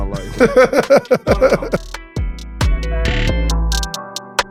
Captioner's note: Maverick laughs; relaxing upbeat music